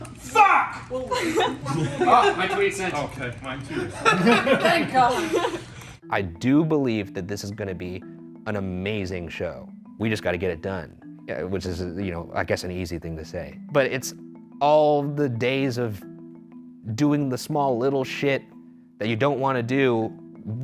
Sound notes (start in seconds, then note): 0.8 team laughing; 3.7 man laughing